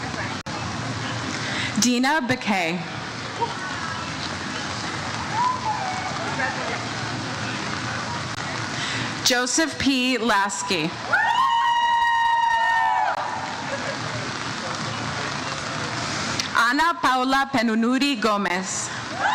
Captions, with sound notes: - Congratulations. - Dina Beque. - Congratulations. - Joseph P. Lasky. (audience members cheer "Woo") Anna Paula Penunudi Gomez.